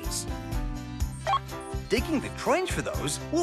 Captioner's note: beep